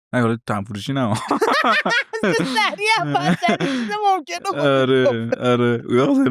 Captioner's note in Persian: خنده